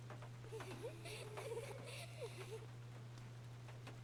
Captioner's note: girl Laughing